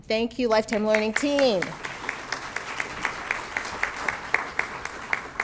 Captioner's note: audience clapping